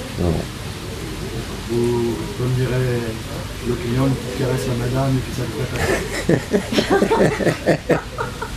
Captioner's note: laughing